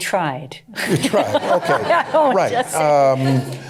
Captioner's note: laughter